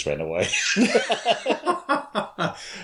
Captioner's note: laughter